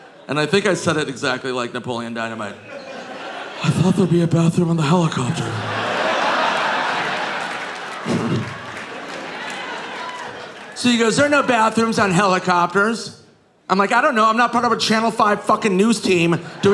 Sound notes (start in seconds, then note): 5.1 audience laughing